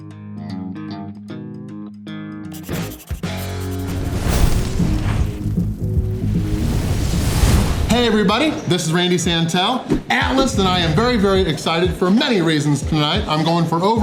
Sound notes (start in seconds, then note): none